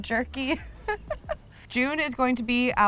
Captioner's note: laughs